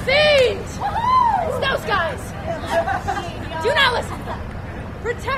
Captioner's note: laughter